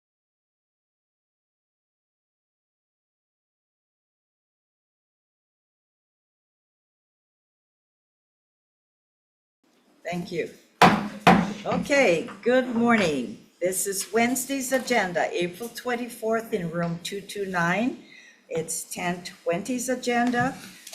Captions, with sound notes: Thank you. (gavel banging) Okay, good morning. This is Wednesday's agenda, April 24th, in Room 229. It's 10:20's agenda.